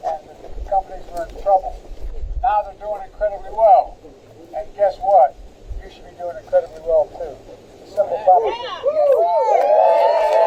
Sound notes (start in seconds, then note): 9.5 applause